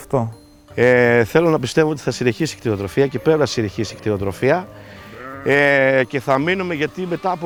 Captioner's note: speaking in foreign language